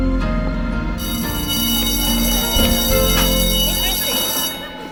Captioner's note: bell rings